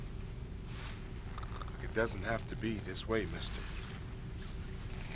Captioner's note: napkin Tearing